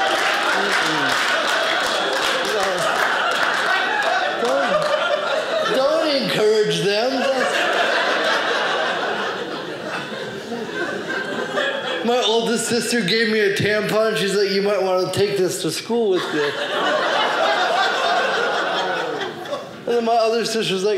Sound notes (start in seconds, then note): 0.0 audience applauding; 7.2 audience laughing; 15.9 audience laughing